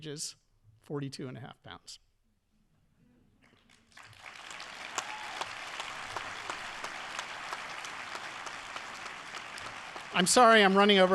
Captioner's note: audience applauding